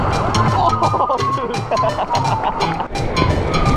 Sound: laughing

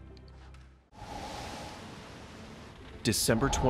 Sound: wind whooshing

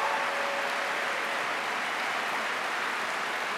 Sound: applause

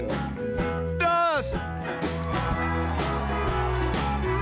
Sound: cheers and applause

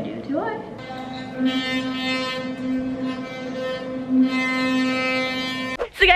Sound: electric toothbrush buzzing

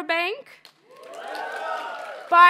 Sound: audience members cheer and applaud

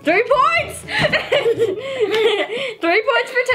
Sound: laughing

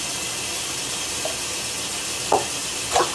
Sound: sound of running water in the sink

